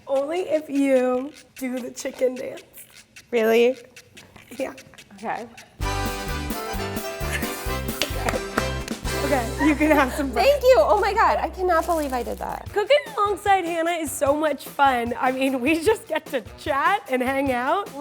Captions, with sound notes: - Only if you do the chicken dance. - Really? - Yeah. - Okay. (cheerful music) (clapping) - Okay, you can have some bread. - Thank you. Oh my god, I cannot believe I did that. - Cooking alongside Hannah is so much fun. I mean, we just get to chat and hang out.